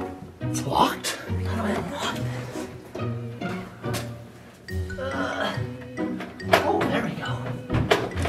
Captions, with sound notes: Its locked? (grunting) there we go.